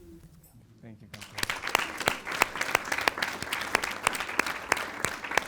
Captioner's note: audience applauds